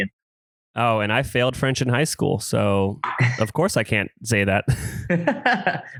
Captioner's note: laughs